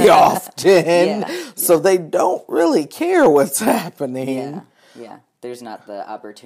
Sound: both laughing

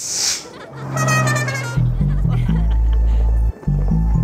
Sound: carn horn beeps

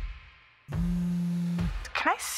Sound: phone buzzes

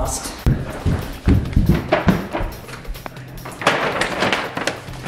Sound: footsteps stomping on floor; paper bag rustling

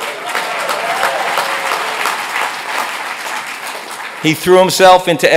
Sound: audience cheers

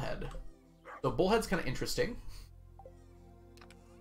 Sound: chuckles

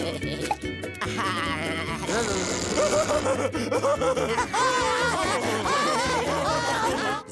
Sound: laughing

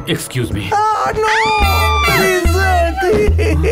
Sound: screaming; crying

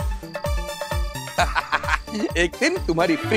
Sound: laughs

